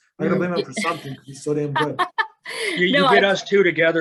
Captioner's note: laughs